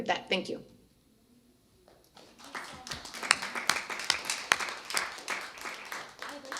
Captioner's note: applause